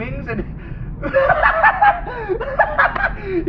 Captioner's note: bill laughs maniacally